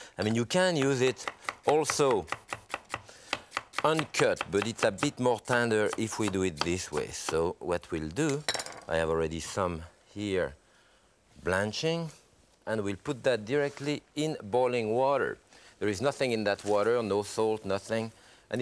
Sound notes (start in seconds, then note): 2.6 knife quickly slicing